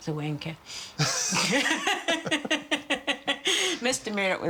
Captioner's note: laughing